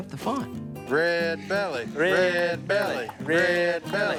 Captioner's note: chanting